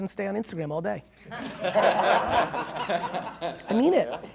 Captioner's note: laughing